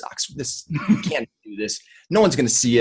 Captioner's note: laughing